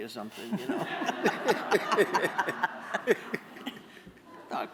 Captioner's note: laughter